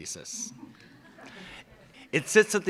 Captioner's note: laughs